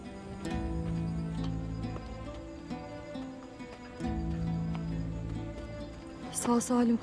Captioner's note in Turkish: Ayak sesleri